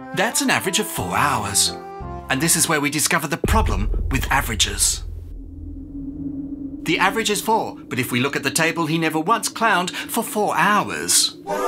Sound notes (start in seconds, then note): 5.3 spooky wind